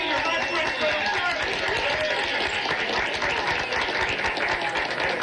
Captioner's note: cheering, applause; applause